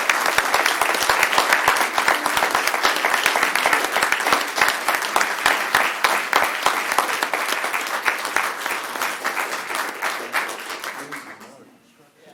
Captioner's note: applause